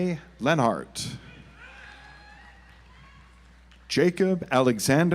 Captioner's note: audience applauds